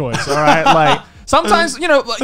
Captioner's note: laughs